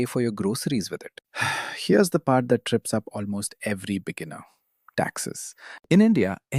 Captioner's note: sighs